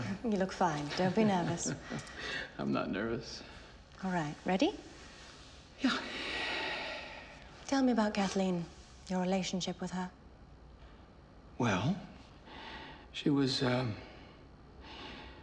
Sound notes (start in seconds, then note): 0.0 laughs